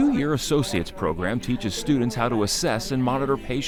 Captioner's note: class chatters